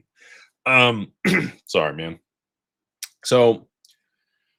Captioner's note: clears throat